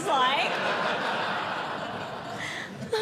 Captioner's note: audience Laughing